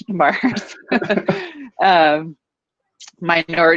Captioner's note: both laughing